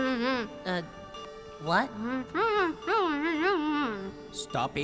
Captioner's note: muffled Nom Noises